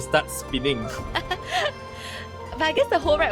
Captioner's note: chuckles